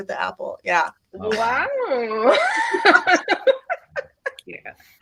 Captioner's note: everyone laughs